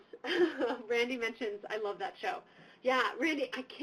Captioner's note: laughs